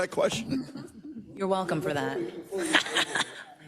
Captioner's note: laugh